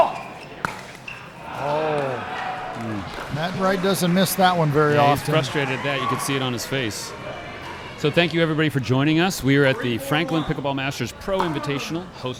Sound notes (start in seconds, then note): 1.5 groaning